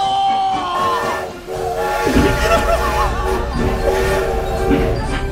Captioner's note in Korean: 하얼빈역 기차소리